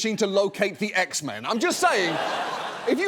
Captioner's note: audience laughs